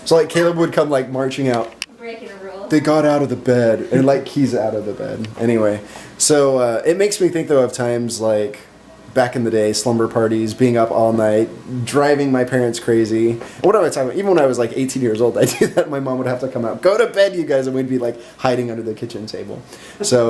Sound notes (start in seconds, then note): 2.3 laughs